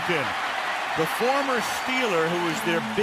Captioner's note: cheering